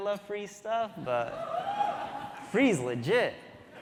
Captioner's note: audience cheering